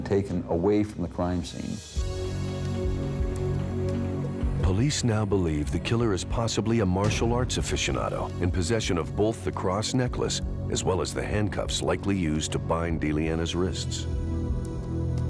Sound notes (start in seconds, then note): none